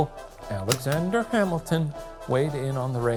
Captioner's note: projector clicking